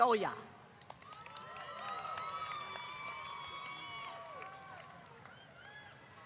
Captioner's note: applause